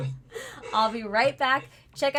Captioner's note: laughing